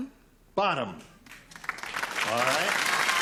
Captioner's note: applause